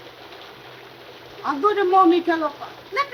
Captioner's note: rain pattering; woman speaks foreign language